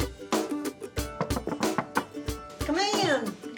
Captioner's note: knocking on door